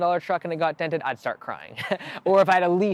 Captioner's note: laughing